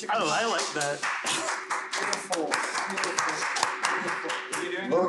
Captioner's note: clapping